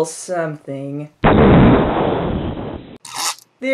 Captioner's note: explosion